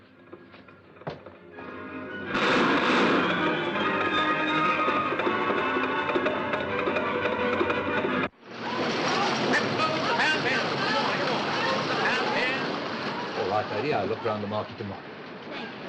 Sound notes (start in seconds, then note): 2.2 western film showing in cinema gunshots and horses; 8.8 street noises